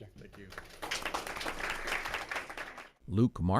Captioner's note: crowd applauds